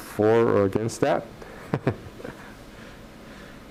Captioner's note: chuckles